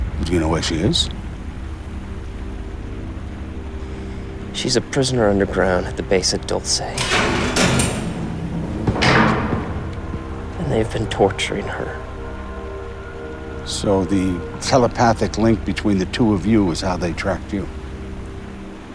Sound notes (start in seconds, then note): 2.9 ominous music; 6.9 metal banging